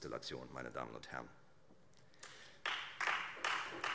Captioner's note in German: Beifall Freie Demokraten